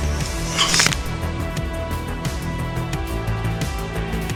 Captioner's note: neck cracking